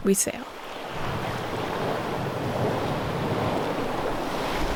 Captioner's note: ocean waves